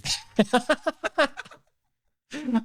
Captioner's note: laughing